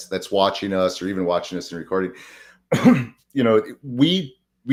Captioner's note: coughs